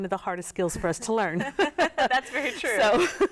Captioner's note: laugh